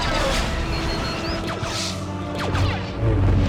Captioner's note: beeping; lightsaber humming